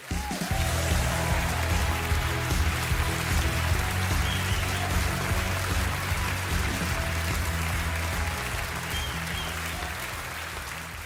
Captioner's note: audience applauding